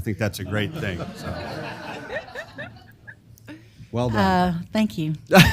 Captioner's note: laugh; laugh